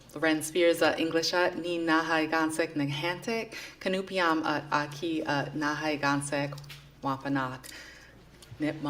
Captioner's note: non-english speech